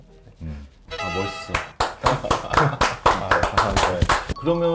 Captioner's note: applauding